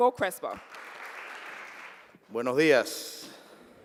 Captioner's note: applause